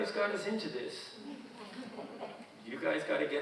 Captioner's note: audience chuckling